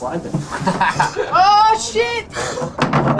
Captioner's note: laughs